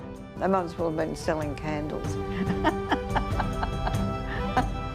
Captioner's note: laugher